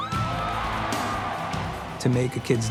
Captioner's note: crowd cheering